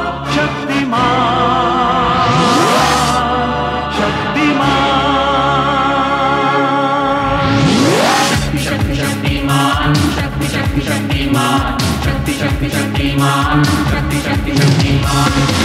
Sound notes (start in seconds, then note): none